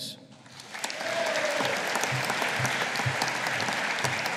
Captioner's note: audience applauding